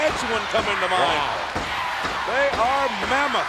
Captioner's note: applause